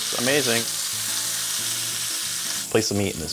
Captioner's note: pork sizzling